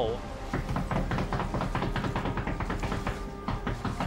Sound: knocking on hull

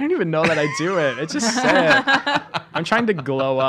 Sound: laughing

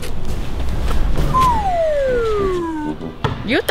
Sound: slide whistle

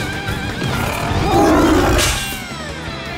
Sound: roaring

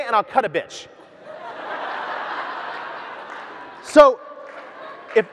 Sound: audience laughs

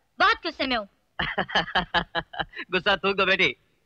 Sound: laughing

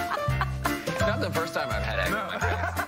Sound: laughter

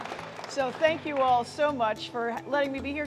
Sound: applause, music

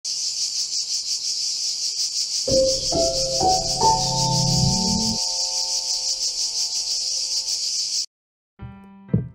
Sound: cicada noises; lighthearted music

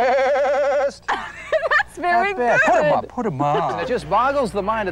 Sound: laughing

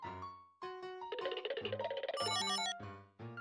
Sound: waddlewaddlewaddlewaddle

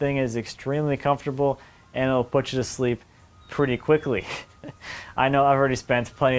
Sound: laughs

